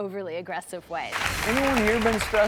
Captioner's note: air whooshing